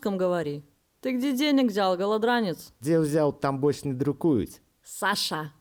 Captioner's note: speaking Belarussian